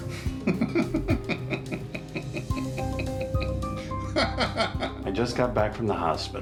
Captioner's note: laughing